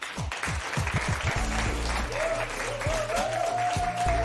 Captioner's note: cheers and applause